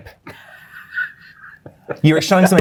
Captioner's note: guy laughing